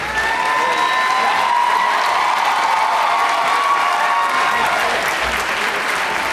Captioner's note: audience cheering and applauding